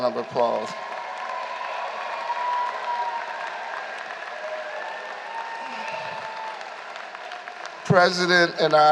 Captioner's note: applause